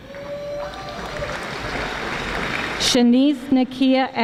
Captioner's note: audience applauding